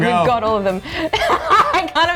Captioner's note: laughing